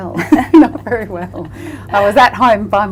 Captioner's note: laughter